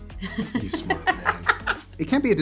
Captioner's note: Ariana laughs